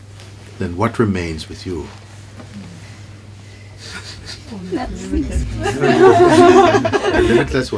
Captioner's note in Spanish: risas